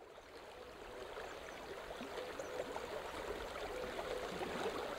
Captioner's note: trickling water